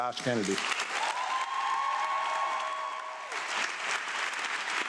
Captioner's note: audience applauding